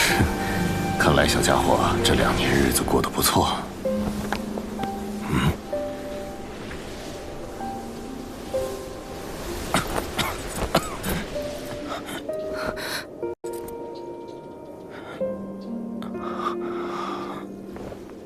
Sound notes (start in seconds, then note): 9.7 cough cough cough